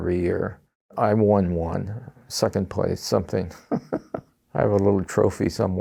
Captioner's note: laughs